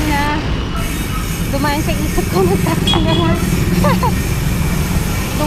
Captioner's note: laughs